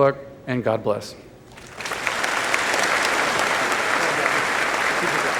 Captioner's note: applause